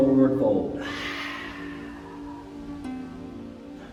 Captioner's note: exhaling